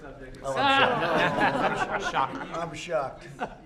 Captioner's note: laughter